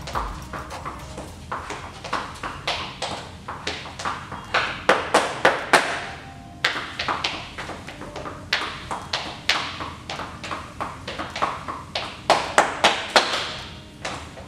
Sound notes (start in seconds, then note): 5.5 bright music continues; 6.6 shoes clanking continues